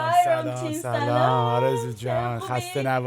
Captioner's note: speaking Farsi